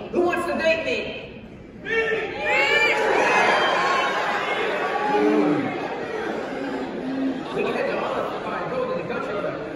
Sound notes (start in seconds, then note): 3.8 cheers